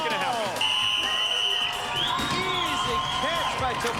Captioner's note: whistle blows